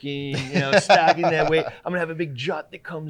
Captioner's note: laughing